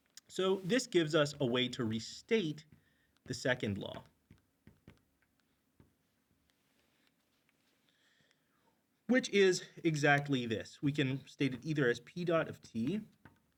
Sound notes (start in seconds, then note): 0.0 marker clacks; 3.5 marker clacks